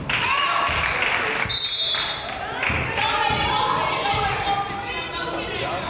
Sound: crowd applauds; whistle blows

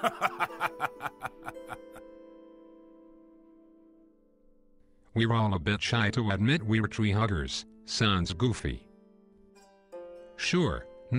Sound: chuckle

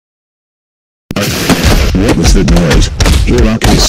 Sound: crash!

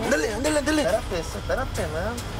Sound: speaking spanish

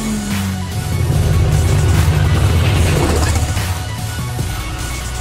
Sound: car engine roaring

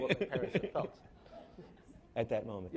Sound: laughing

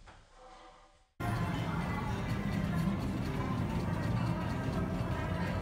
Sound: ambient casino sounds

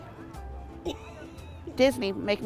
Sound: laughs

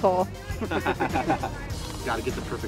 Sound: laughing

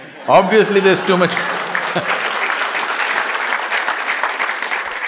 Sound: applause

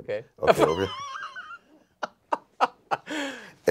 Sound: laughs

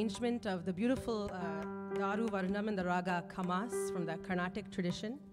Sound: speaking in language other than English

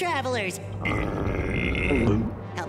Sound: growling

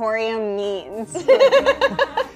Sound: woman laughing

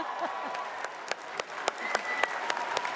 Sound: chuckles; audience applauding

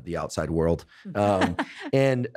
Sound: expert laughs

